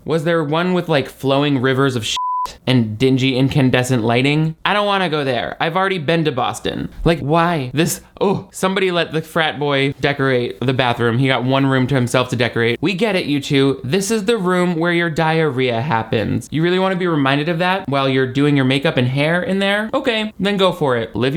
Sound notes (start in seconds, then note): 2.1 beep